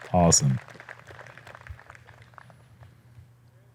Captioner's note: applause